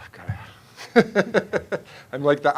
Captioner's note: laughing